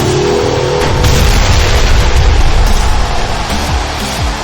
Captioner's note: explosion booming